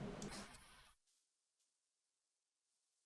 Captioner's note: silence